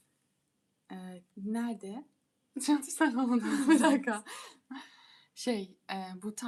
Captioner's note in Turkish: kahkaha